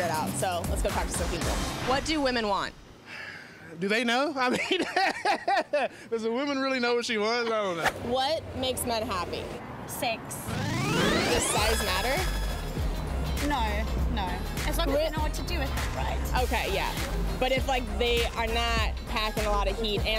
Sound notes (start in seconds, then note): 4.4 laughter; 10.5 rolling sound effect